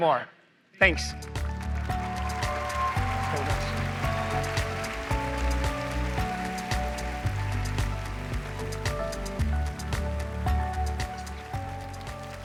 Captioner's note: applause